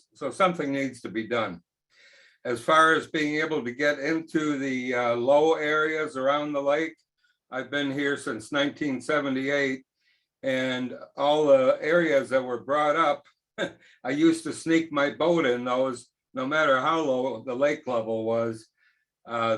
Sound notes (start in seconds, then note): 13.6 chuckles